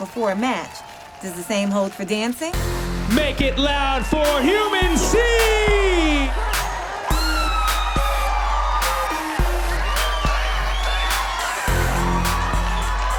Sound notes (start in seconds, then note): 6.6 crowd cheering; 9.4 upbeat music